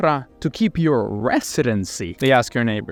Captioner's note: camera clicking